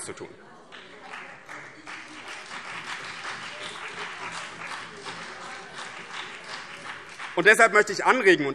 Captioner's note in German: Beifall BÜNDNIS 90/DIE GRÜNEN und vereinzelt CDU